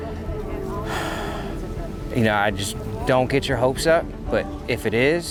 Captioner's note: sighs